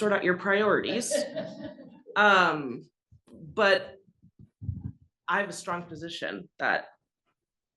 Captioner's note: laugh